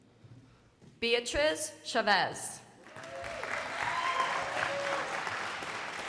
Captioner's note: crowd applauding